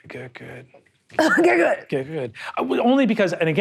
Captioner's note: coughs